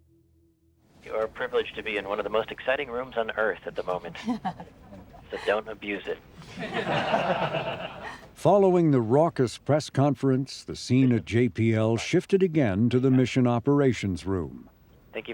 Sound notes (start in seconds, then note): 3.9 crowd member laughs; 6.4 crowd laughing